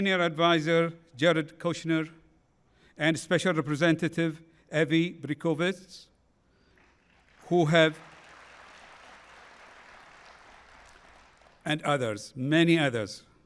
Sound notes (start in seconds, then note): 6.6 applause